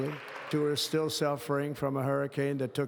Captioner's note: audience clapping